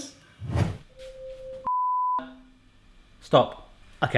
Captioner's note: beeping